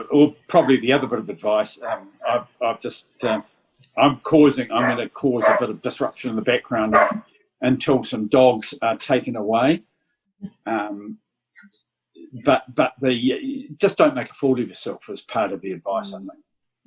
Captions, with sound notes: >> Probably the other bit of advice [dog barking] I'm going to cause a bit of disruption in the background until some dogs are taken away. But just don't make a fool of yourself is part of the advice, I think.